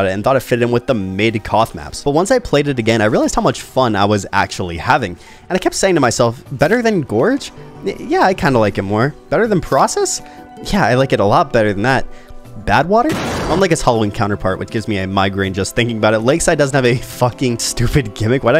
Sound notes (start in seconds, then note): 13.0 vat clanks